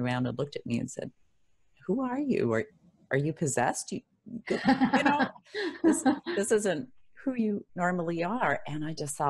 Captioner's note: laugh